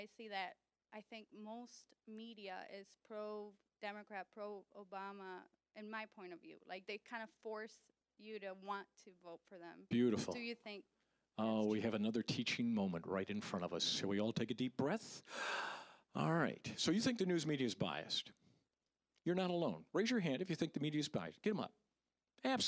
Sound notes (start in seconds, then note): 15.2 inhaling